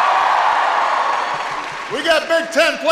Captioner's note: applause